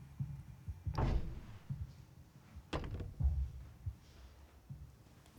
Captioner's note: door clattering